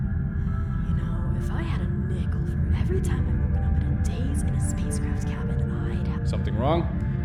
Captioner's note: under her breath